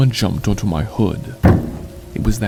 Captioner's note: car hood slamming